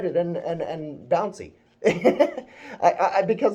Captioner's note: giggle